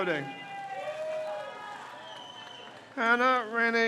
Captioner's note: crowd cheers